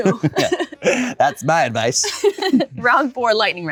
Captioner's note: chuckles